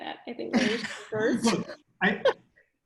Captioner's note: laughter